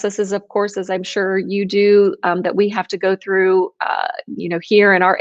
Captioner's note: speaks in foreign language